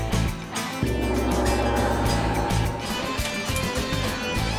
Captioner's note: gong chimes